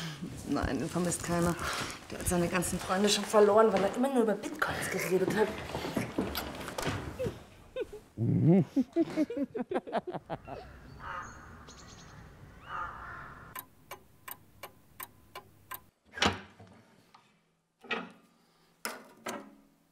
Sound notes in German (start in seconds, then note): 8.7 kichern